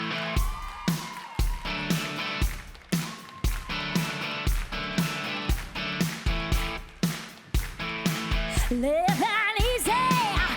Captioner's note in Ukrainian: оплески